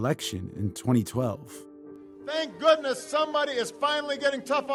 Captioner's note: soundbite of archived recording